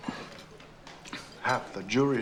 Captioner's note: sighs